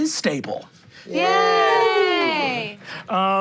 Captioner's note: everyone cheering